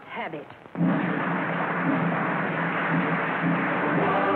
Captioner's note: applause